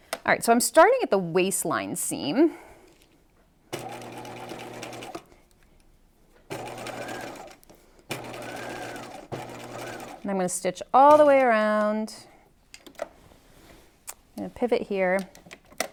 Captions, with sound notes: All right, so I'm starting at the waistline seam. (sewing machine whirs) And I'm going to stitch all the way around. I'm going to pivot here.